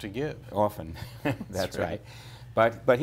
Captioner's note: laughter